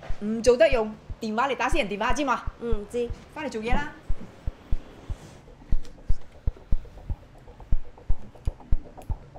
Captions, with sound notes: [In Cantonese] Don't use your phone to make personal calls, understand? [In Cantonese] Understand. [In Cantonese] Go back to your work.